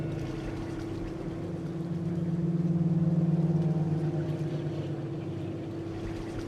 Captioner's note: pensive music; engine rumbling; water splashing